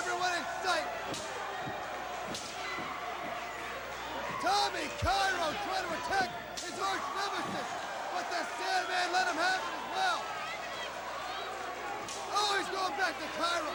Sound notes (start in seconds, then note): 5.8 crowd chatter